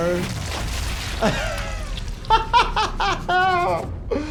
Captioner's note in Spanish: risas